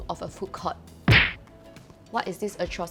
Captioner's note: slams table